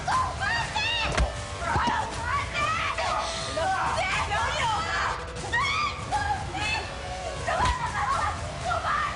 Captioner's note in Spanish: Gritos de Valeria